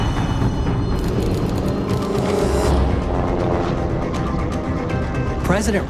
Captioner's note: dramatic music; plane engine roaring